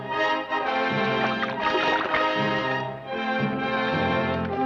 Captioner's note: water splashes